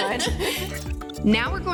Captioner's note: laughing